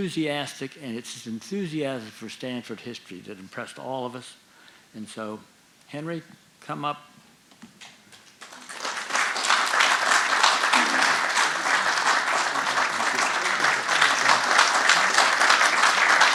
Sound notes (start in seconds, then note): 8.2 audience applauding